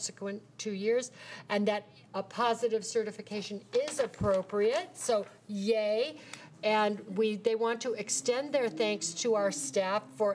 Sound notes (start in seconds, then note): none